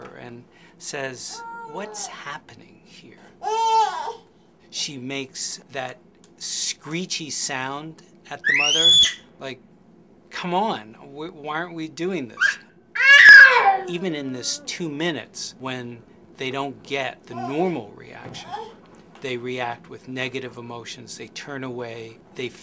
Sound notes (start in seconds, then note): 3.4 baby whines